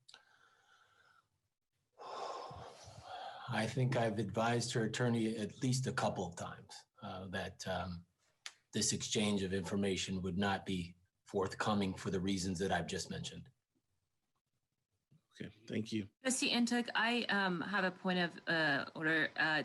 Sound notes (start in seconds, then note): 2.0 sighs